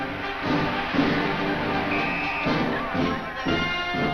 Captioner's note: whistle blows; rousing marching band music